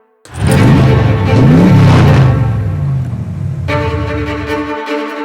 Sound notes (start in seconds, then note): 0.2 engine roaring